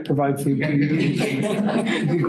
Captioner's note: laughter